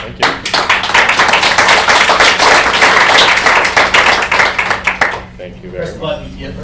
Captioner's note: applause